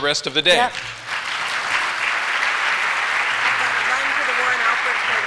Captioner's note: applause